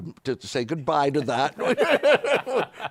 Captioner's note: laughter